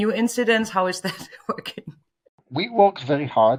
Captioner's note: laughs